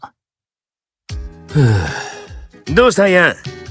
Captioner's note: sighs